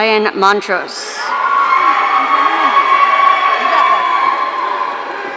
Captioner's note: audience cheering